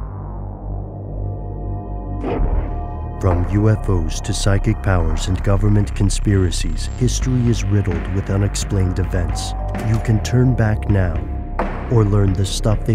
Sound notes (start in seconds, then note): 0.0 ominous music; 3.3 voiceover